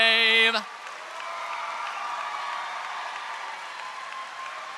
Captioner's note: audience applauding